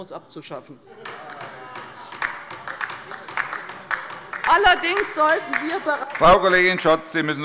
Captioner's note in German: Heiterkeit und Beifall bei der LINKEN - Zurufe von der CDU